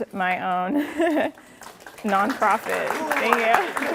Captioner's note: applause